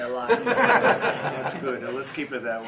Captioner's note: laughter